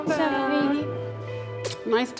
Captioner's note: kisses